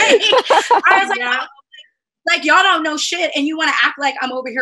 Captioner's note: laughter